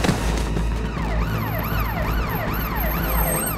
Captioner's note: siren blaring